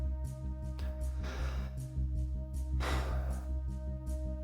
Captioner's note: Jamie sighs